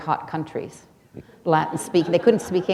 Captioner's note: laughter